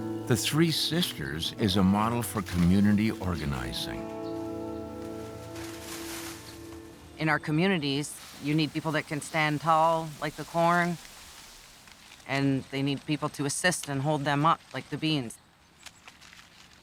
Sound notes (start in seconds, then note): 4.7 corn rustling